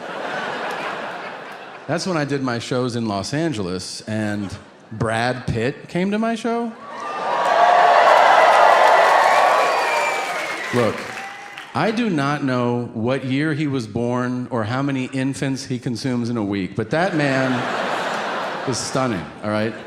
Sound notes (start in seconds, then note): 0.0 audience laughing; 6.8 audience cheering